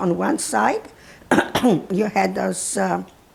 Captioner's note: clears throat